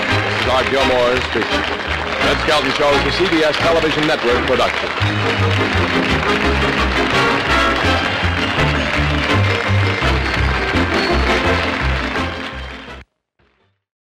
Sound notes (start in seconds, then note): 6.4 applause